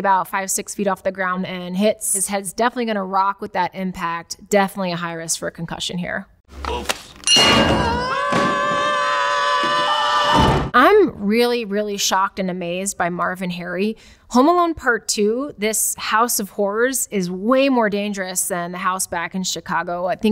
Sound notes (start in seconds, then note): 7.2 bell dings; 7.4 both yell